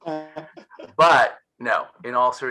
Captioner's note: all laughing